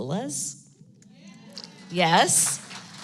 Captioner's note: applause